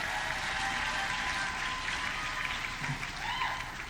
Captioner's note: audience cheering